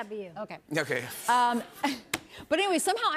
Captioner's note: laughs